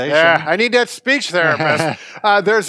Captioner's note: laughing